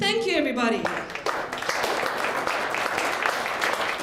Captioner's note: applause